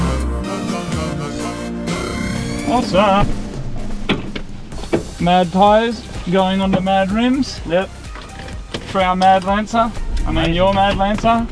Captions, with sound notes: [sing song] Awesome! -Mad tyres, going onto mad rims. -Yep. For our mad Lancer. -I mean, your mad Lancer. -Amazing!